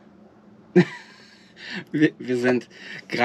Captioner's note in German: lachen